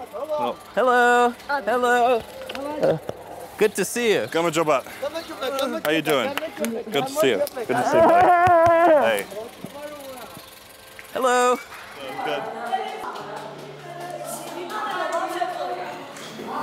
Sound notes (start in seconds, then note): 4.2 speaks Georgian; 12.9 indistinct chatter